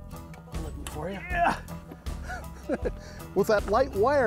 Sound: grunts and laughs

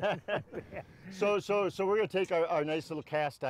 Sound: men laugh

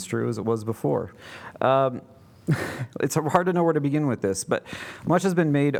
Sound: laughter

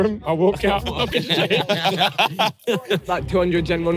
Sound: everyone laughing

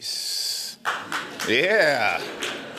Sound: applause

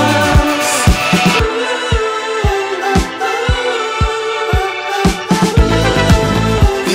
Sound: vocalizing

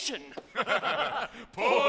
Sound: all laughing

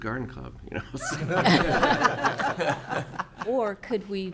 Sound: audience laughing

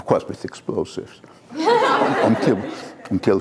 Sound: laughter

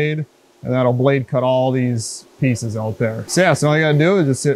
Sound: machine noise

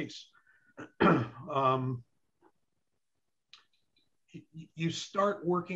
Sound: clearing throat

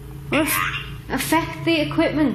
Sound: muffled synthesised noise

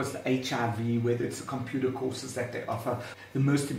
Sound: woman speaking native language

